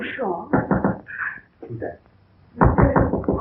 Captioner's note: pounding